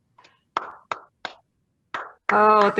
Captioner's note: applause